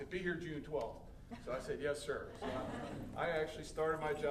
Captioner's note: audience laughing